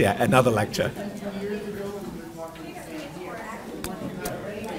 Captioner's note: overlapping chatter